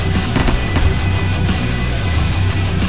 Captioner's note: gunfire